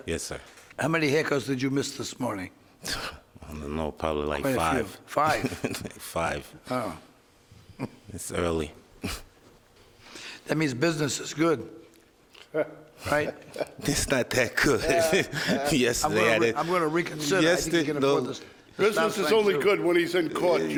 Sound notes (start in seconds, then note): 11.6 chuckling